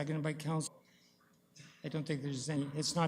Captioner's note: audio drop